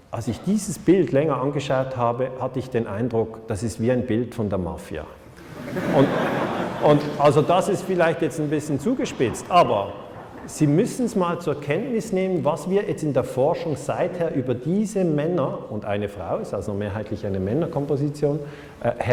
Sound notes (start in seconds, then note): 5.4 laughter